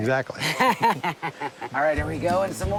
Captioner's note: laughs